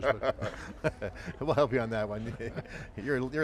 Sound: laughing

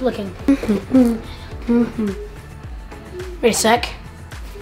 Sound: hums

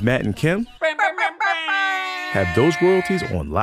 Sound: imitating beeping

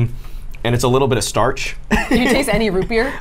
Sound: laughs

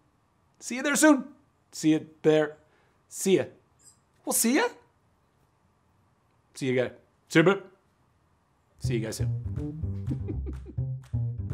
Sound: giggling

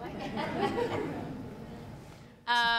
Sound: audience laughs

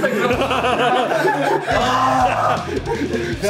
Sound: lachen

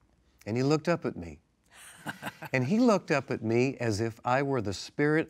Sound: laughs

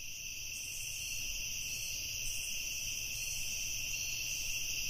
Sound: crickets chirping

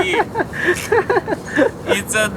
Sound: laughs

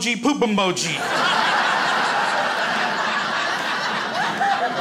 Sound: crowd laughs

